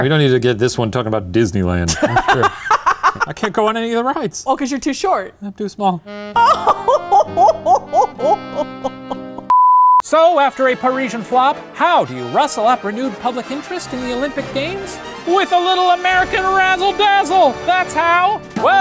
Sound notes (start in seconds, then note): 1.9 laughing; 6.0 sad jazz music; 9.5 beeping